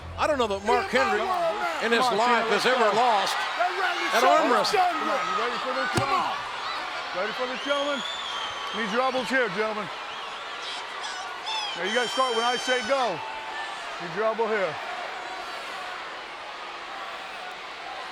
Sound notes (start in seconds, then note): 6.6 claps